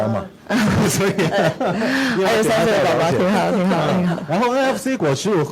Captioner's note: laughter